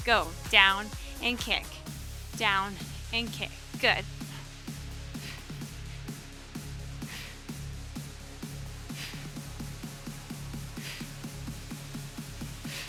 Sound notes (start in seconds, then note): 4.0 breathing deeply; 4.6 upbeat music continues